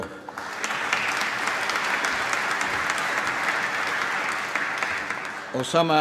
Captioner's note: applause